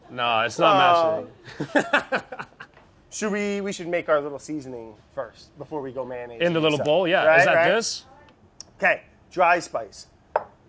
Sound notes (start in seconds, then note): 1.4 laughs